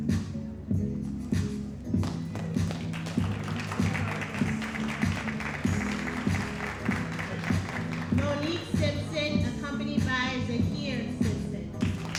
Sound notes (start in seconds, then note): 2.0 audience applauding